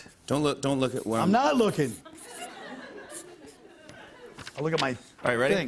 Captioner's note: laughter